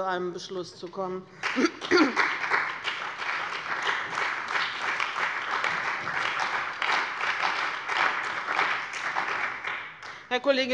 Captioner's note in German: Beifall bei dem BÜNDNIS 90/DIE GRÜNEN und der CDU